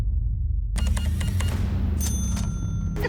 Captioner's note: beeping; cash register dings